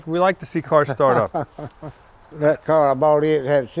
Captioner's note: laughing